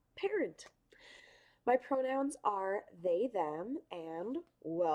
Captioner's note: inhales